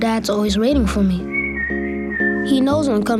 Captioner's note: whistles